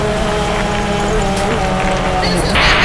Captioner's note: demon crying